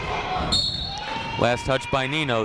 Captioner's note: whistle blows